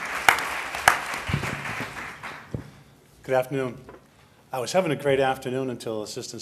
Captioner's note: applause